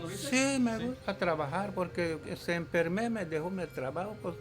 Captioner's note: speaking Spanish; speaking Mayan